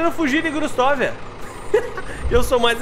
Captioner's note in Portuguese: Risos